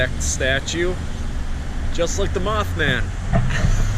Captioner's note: laughs